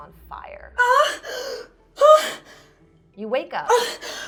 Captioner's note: gasping